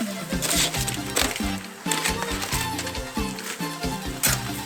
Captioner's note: foil crunches